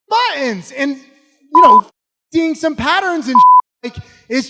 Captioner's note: beep